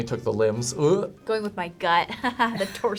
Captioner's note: chuckles